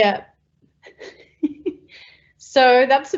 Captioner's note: laughing